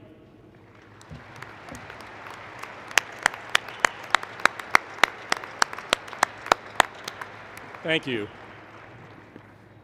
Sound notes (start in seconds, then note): 5.3 applause